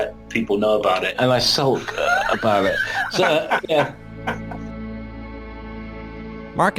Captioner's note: laughs